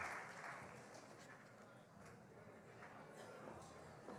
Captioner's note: applause